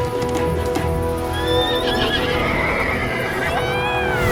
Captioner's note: upbeat music; horse neighs